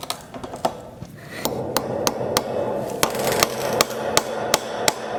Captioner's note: hammering